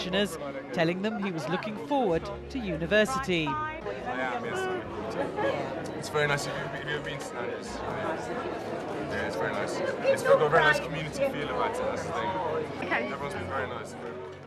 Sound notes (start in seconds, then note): 3.5 speaking softly